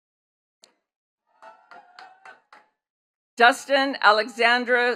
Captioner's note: attendees clapping